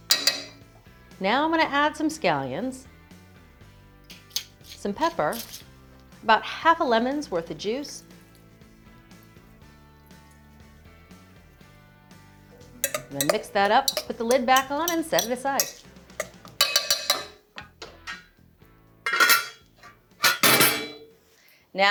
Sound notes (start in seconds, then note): 0.1 fork tapping; 16.6 fork tapping; 19.0 saucepan lid and saucepan clanking